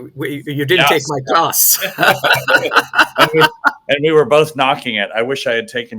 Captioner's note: both laugh